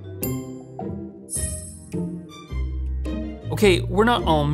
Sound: chime rings

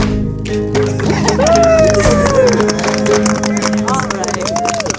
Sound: cheering, clapping and laughing

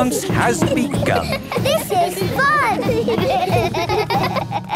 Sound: laughter

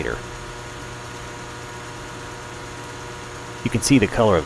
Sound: transformer humming

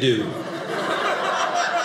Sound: audience laughing

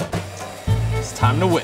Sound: mixers whirring

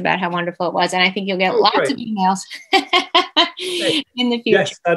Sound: laughs

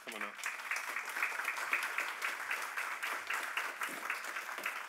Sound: audience applauding

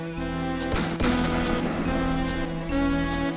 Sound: two gunshots

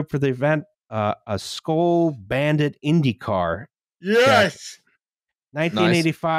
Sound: yawning

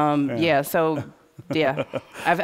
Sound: laughter

